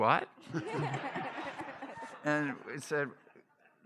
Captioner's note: laughter